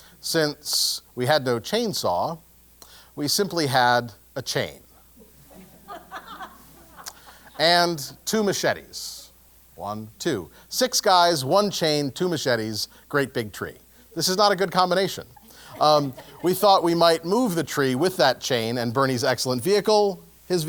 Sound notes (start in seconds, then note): 5.2 laugh; 15.2 laugh